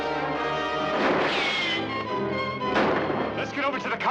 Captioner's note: bullet whizzing